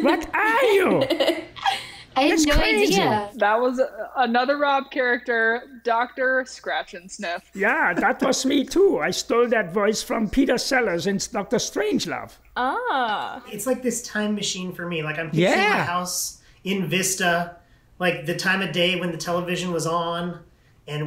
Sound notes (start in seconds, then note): 0.0 laughs